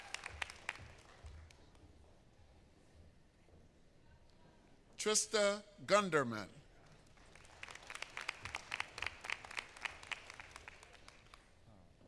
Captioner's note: applause